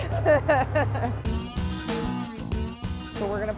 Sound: laughing

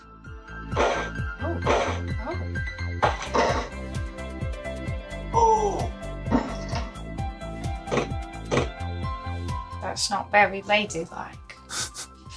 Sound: cockney accent

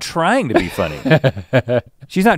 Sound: Link chuckles

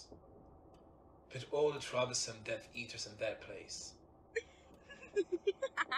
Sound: Bellaxtrix laughs

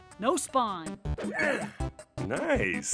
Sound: grunts

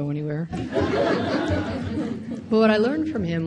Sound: audience laughs

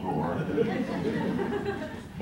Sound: laughter

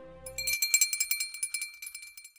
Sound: bell ringing

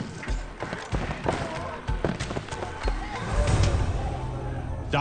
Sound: footsteps thumping

